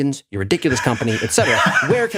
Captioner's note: laugh